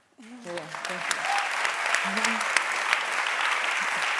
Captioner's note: applause